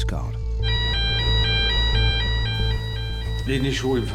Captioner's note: siren blaring